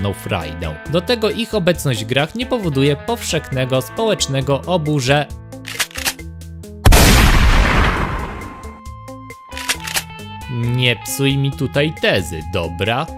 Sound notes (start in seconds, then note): 6.8 sound of a shotgun shot